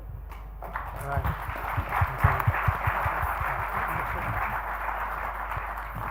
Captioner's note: applauding